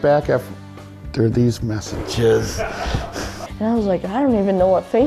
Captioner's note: laughs